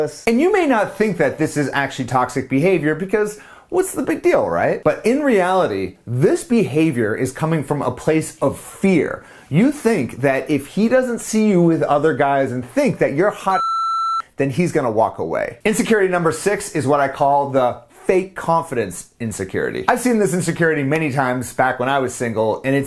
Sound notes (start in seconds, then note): 13.5 beep